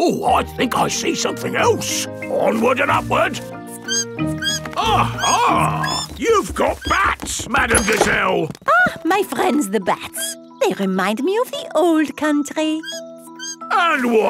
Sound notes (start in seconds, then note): 3.6 bat squeaking